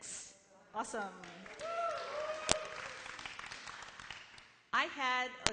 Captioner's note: applause